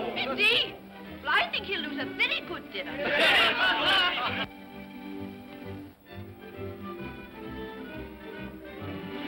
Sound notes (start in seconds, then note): 3.0 guests clamor in agreement; 4.4 upbeat music